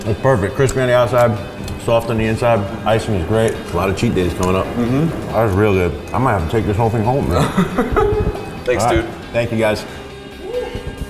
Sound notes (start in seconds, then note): 7.2 laughs